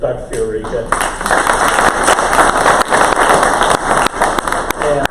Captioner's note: crowd applause